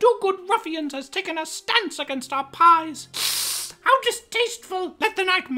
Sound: hisses

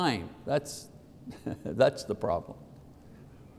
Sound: laughs

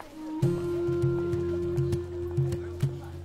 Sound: speaking Arabic

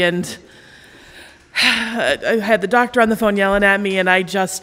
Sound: sighs

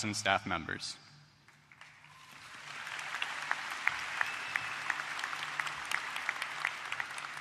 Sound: applause

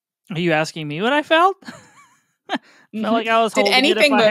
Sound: laughs

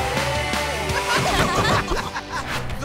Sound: laughing

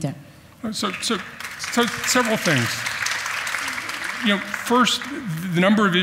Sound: audience applauds

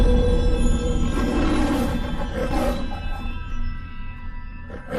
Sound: Leo the Lion roaring, purrs, then roars again

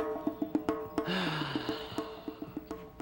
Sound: sighs

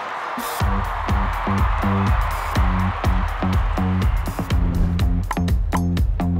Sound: crowd cheers; upbeat music

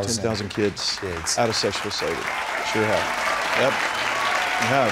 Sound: applause

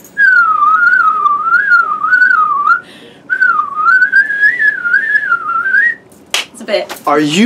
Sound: whistles

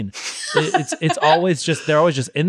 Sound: laughs

